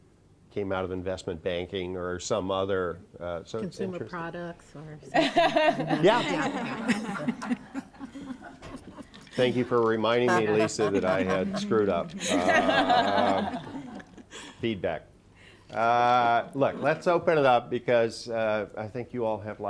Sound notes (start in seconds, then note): 5.1 laughter; 12.2 laughter